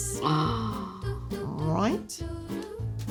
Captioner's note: gasps